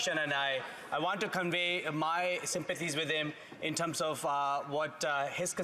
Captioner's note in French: voix de l'interprète